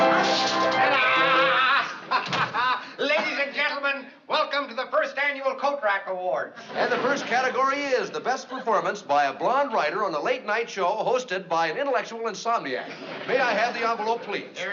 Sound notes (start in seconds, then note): 0.0 playing piano; 0.7 laughing